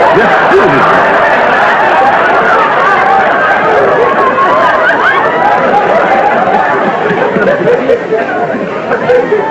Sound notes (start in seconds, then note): 1.7 raucous laughter